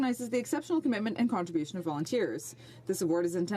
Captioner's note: speaking French